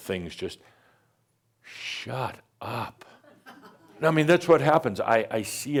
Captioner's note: a few chuckles